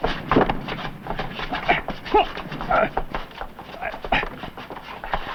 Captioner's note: grunting